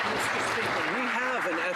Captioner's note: some Applause